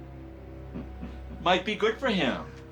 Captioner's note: man in pink chuckling